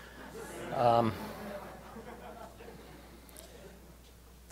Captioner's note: laughter